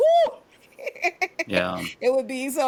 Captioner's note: laughs